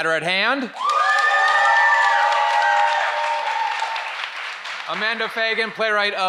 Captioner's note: audience applauds and cheers